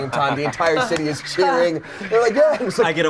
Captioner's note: chuckles